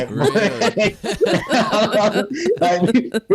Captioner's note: everyone Laughs